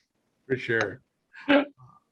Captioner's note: chuckling